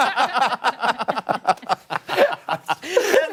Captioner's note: laughter